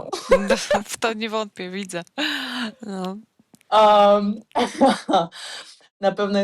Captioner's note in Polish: śmiech; śmiech